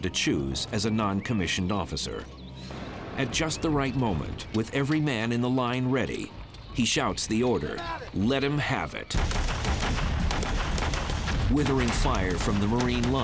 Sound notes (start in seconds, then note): 9.1 gunshots